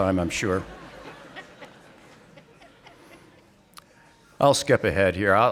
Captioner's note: audience laughing